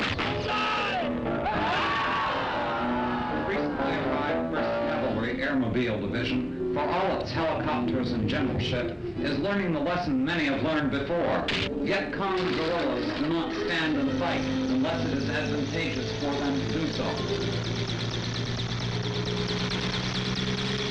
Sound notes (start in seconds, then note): 0.0 yelling; 0.0 gunshots; 1.3 screaming; 17.8 helicopter whirs